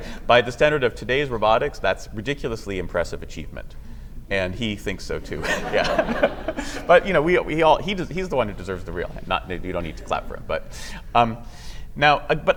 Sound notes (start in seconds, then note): 5.3 laughter